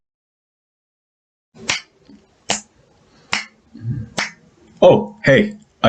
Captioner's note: clicking fingers